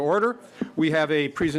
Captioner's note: gavel